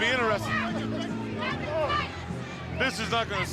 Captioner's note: crowd chatter